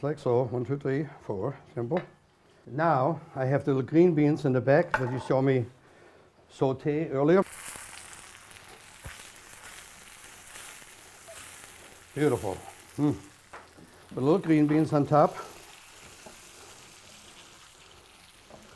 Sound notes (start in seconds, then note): 9.9 pan sizzling